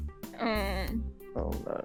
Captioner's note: whine